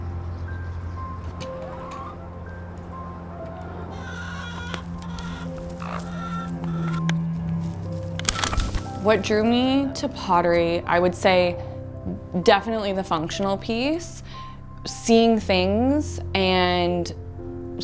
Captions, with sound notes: (soft piano music) (chickens trilling) What drew me to pottery, I would say definitely the functional piece. Seeing things and...